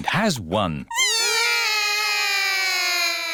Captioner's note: all cry